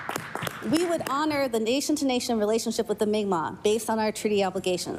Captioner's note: applause